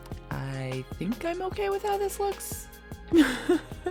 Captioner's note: laughs